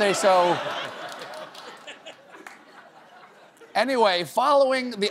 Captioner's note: laughter